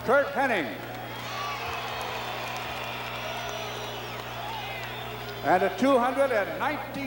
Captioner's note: applause